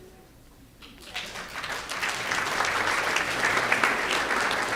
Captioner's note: audience applause